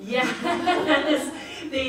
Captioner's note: audience laughs